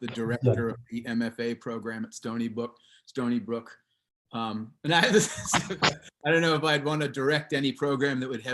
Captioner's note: laughs